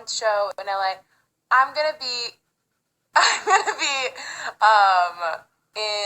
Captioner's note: laughs